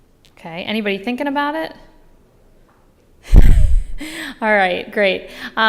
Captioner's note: laugh